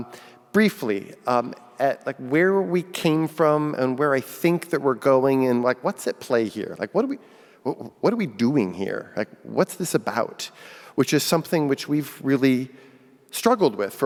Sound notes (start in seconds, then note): none